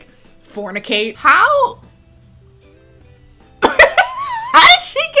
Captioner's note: laughs